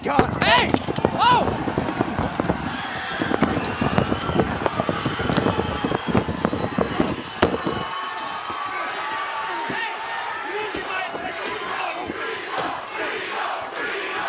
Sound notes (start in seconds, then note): 1.9 crowd cheering